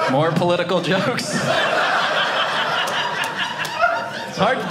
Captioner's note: audience laughing